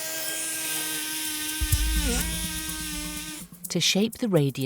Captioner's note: instrument drilling